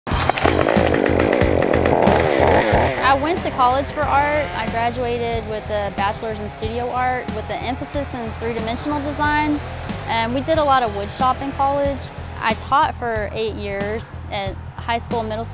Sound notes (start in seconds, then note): 0.0 chainsaw motor revving